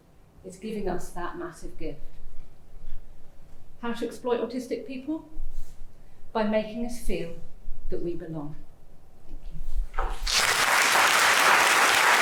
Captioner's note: applause